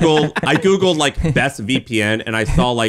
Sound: laughing

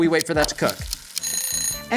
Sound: timer Ticking; timer Ringing

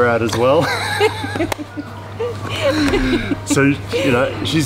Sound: laughing

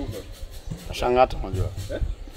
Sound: in foreign language

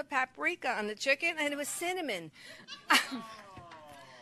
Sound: chuckles; audience laughs

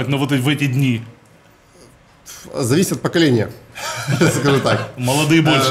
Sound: laughs

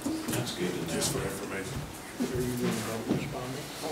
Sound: murmurs

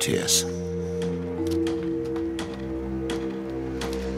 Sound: hammering

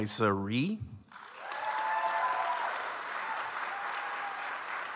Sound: audience applauds

